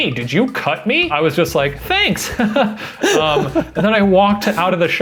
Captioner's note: laughs